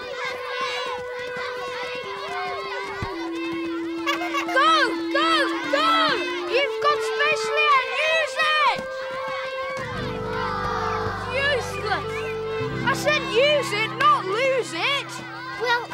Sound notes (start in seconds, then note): 4.1 horn honking; 10.4 crowd groans